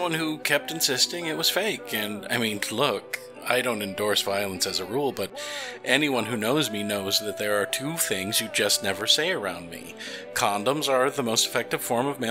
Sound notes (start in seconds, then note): none